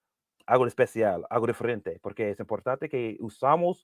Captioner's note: speaking spanish